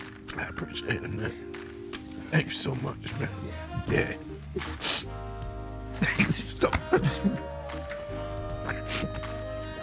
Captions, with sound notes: - I appreciate it, man. Thank you so much, man. - Yeah. - Yeah. (sobbing) Thank you so much man.